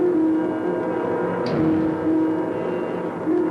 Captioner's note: elevator door opens; ominous music